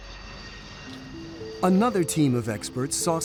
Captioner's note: plane engine whirring